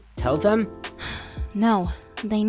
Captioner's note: sighs